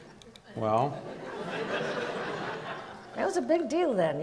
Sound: audience laughs

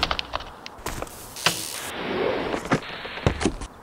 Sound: creaking and swooshing

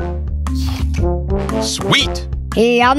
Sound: Ed chomps

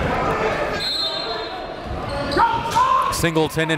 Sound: whistle blows

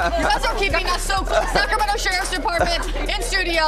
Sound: laughing

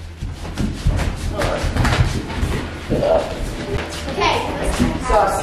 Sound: family chattering

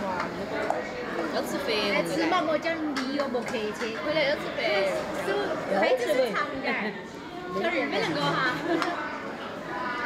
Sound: they chatter

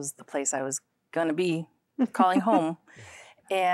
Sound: giggling

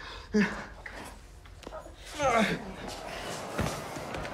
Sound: grunting; crowd murmuring

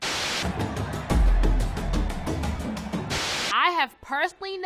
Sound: crowd cheering; lively thumping music

